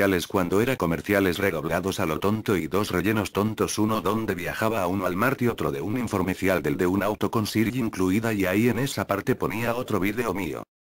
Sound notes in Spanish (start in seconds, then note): none